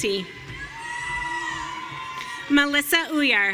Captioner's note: audience cheering